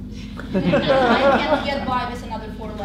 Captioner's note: laughter